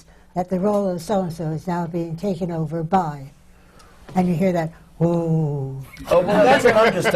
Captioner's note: laughter